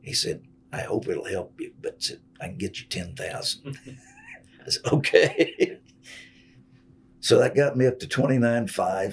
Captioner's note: laughs